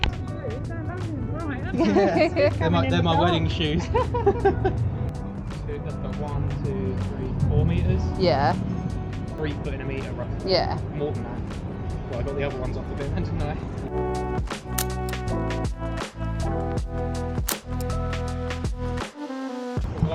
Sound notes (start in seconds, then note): 14.8 camera shutter; 17.5 camera shutter